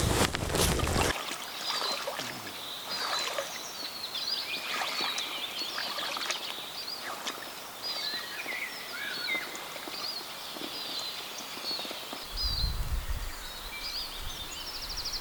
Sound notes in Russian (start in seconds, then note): 1.9 звуки леса; 1.9 пение птиц